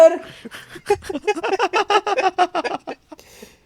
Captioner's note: laugh